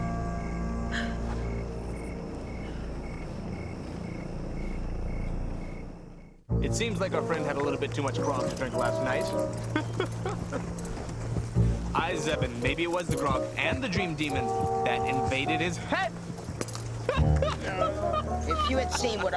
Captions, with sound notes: (light orchestral music) (footsteps) - It seems our friend had too much grog last night. (laughing) Aye, Zzeben, maybe it was the grog and the dream demon that invaded his head. (laughing)